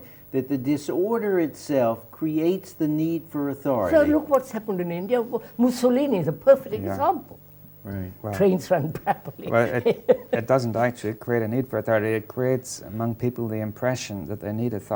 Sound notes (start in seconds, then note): 8.9 laughs